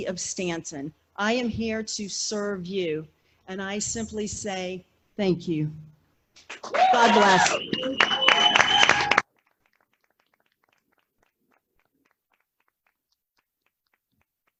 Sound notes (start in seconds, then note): 6.5 applause